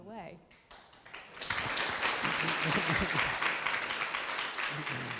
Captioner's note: audience applauding